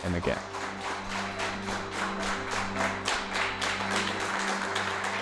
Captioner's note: applause